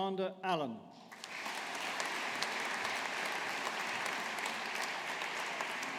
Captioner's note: audience applauding